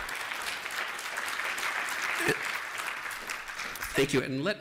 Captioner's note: applause